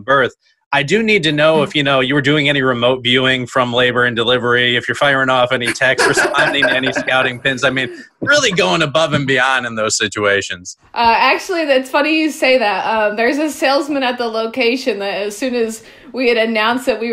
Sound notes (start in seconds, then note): 5.6 laughs